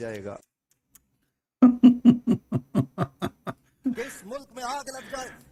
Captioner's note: Ketawa